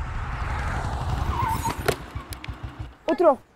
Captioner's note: Tires screeching